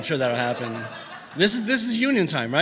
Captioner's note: laughter